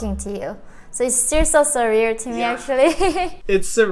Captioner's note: laughs